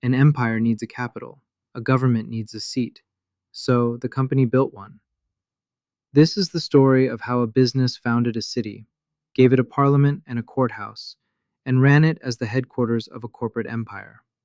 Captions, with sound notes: An empire needs a capital. A government needs a seat. So the Company built one. [thoughtful] This is the story of how a business founded a city, gave it a parliament and a courthouse, and ran it as the headquarters of a corporate empire.